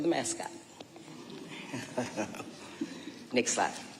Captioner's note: chuckling